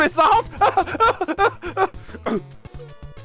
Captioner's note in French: rires nerveux